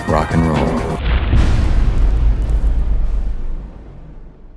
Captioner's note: impact